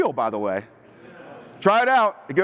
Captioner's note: laughter